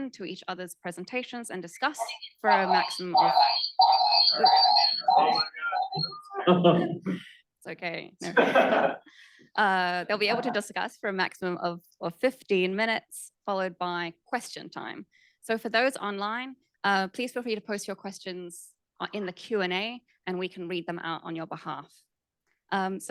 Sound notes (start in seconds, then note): 1.7 computerized alarm sounding; 8.3 audience member laughing